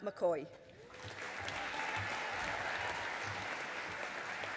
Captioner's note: audience applauding